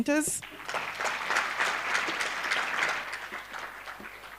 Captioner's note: applause